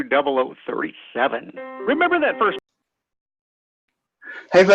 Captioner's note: radio Announcer